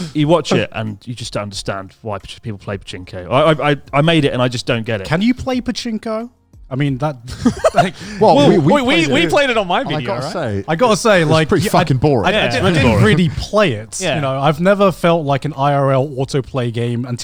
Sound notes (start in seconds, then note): 0.0 chuckles; 7.3 laughs